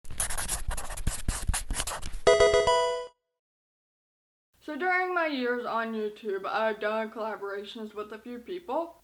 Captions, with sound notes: (marker scratching) (electronic game sound) So during my years on YouTube I've done collaborations with a few people.